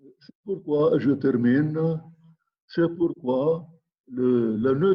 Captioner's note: speaking in foreign language